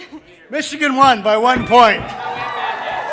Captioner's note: audience cheering